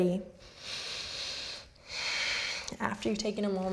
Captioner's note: inward and outward breath